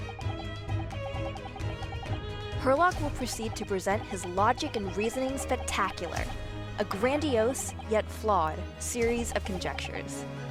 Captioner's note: beeping